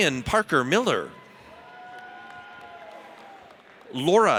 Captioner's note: audience cheers